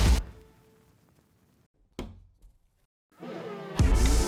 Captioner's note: loud Squeegee Wiping